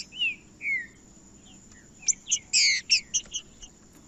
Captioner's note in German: trinca ferro cantando